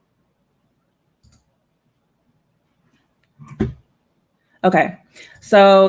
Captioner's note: computer mouse clicking